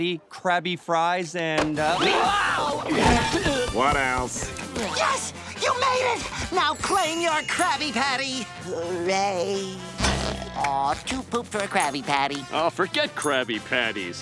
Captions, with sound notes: Krabby fries and-- [screaming] What else? Yes, you're made it! Now claim your Krabby Patty. [groaning] Uh, too pooped for Krabby Patty. Oh forget Krabby Patties.